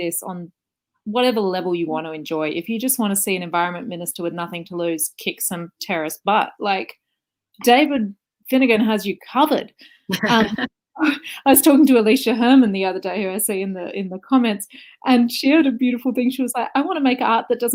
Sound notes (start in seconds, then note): 10.1 laughs